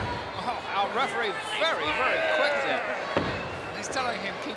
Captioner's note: wrestlers grunting